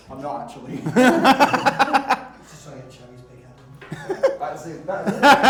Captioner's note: laughter